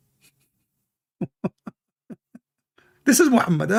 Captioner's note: Ketawa